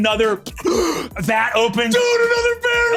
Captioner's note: gasps